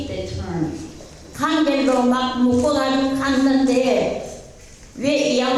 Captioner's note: speaking in foreign language